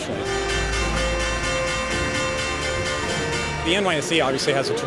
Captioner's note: bells chiming